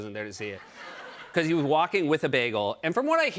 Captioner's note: laughter